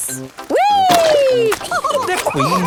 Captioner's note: all laughing